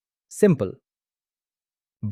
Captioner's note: pause